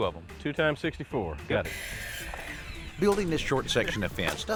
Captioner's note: whirring